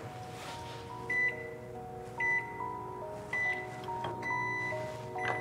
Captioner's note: microwave beeping